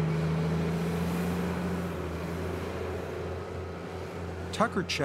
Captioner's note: tractor rumbling